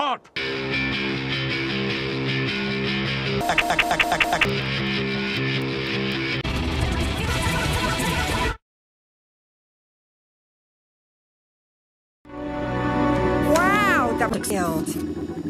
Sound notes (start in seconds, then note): 0.4 guitar riff; 3.4 click Click Click Click Click